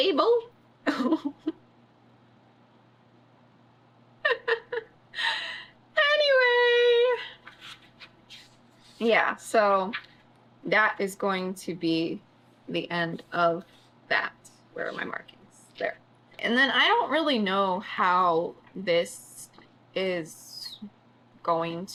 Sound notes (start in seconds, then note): 0.8 laughs